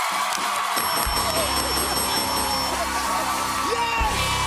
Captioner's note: cheers and applause; laughing; ding